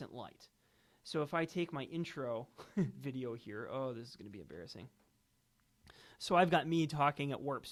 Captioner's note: giggles